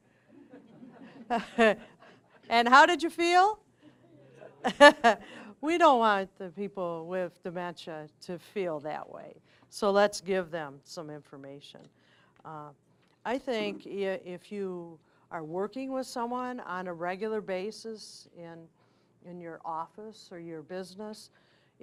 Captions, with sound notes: (audience laughing) And how did you feel? (chuckling) We don't want the people with dementia to feel that way. So let's give them some information. I think if you are working with someone on a regular basis in your office or your business,